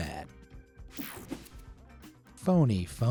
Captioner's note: screen whooshing